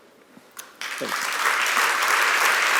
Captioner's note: applause